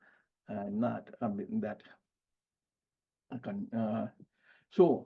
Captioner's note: speaking faintly